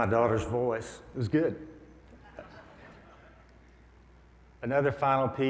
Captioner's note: audience laughs